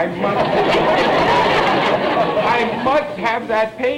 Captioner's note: audience laughter